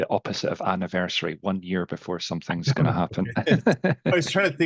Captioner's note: laughs